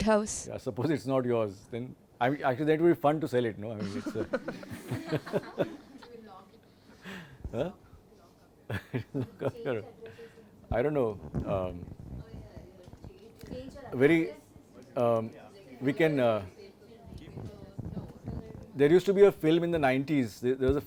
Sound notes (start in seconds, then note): 6.7 laughing and small talk